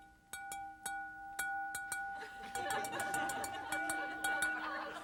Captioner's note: audience laughing